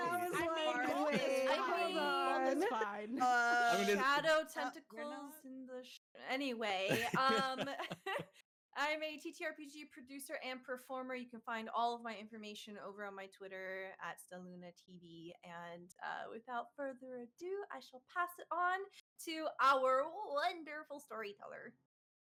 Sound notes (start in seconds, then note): 6.8 chuckling; 6.8 laughing